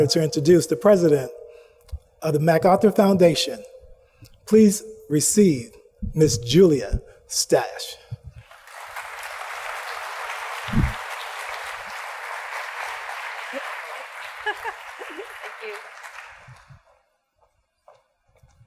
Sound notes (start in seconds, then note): 8.4 audience applauds; 13.4 laughs